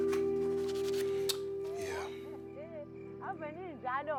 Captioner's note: laughing